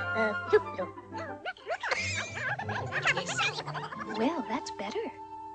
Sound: mice chattering

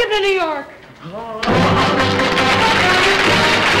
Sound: men clamoring; celebratory music; applause

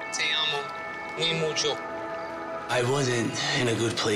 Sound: speaks foreign

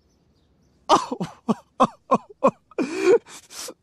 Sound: sobbing

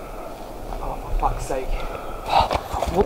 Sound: murmuring

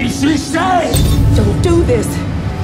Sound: crash

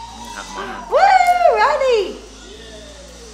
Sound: gasps

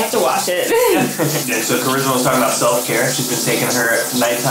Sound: laughing

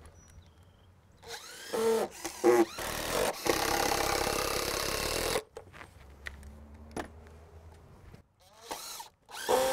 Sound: drills whirring, no additional audio

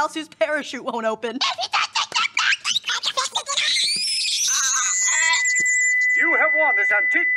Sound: incoherent squeaking turning into ringing

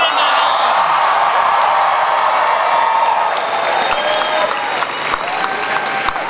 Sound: cheers, applause

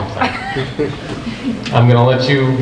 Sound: group chuckles

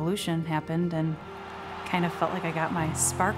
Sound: cheering

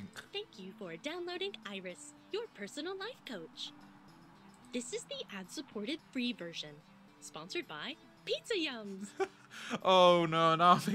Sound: laughs

